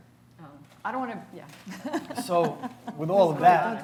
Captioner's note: laughs